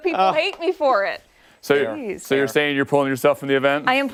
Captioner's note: laughter